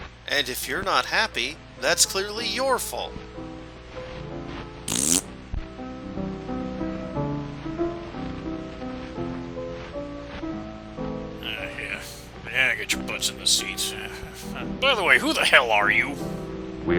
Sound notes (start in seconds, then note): 4.8 fart noise; 11.6 as dad, grumbling